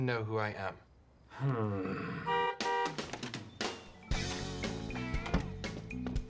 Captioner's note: horn honks